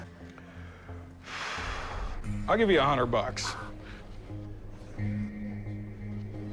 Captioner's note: laughs; exhales